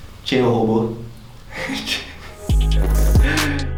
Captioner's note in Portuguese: risadas